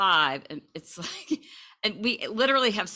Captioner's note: laughs